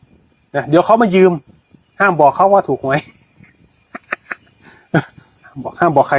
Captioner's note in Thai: เสียงหัวเราะ